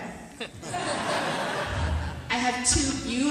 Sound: audience laughter

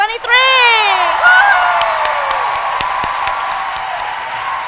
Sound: cheering

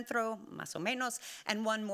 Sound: speaking Spanish

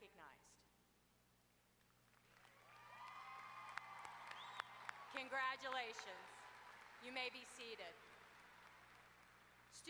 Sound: applause

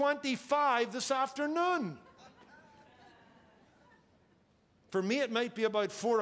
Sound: congregation laughing

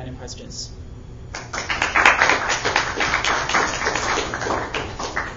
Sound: audience applauding

